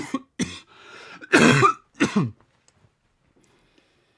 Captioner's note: coughing